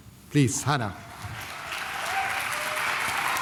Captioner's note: applause